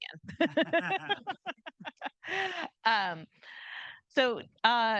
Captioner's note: group laughing